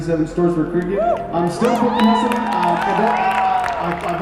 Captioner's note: cheers